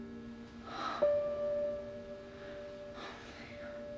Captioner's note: Maggie moaning; gentle music